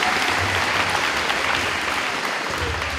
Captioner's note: crowd applauding